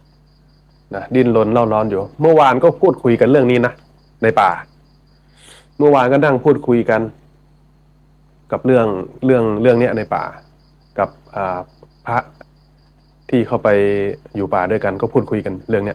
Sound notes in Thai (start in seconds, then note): 5.1 เสียงสูดหายใจ